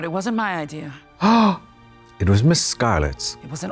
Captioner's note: Trixie gasps